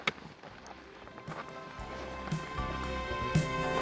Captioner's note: footsteps crunch